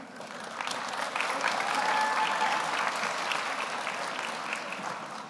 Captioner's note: audience applauds